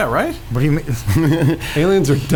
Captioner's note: laughs